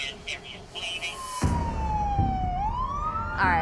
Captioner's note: siren wailing